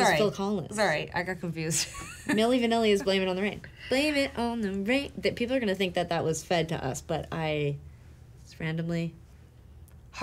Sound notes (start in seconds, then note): 2.0 laughing